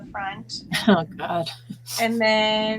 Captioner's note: laughing